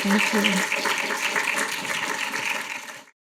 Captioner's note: audience applauding